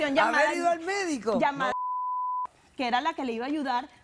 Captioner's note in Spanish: Bip